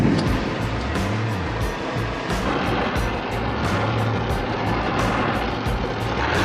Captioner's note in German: Lötbrenner dröhnt; fröhliche Instrumentalmusik